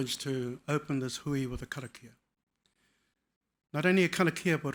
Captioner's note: speaking foreign language